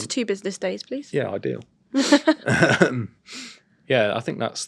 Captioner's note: chuckles